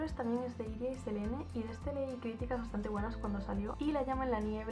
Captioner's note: spanish only